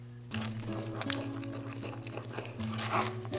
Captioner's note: mixing and scraping